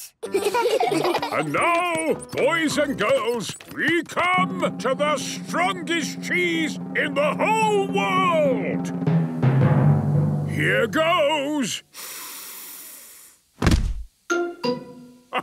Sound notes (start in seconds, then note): 9.2 dramatic drumming music; 11.9 sniffs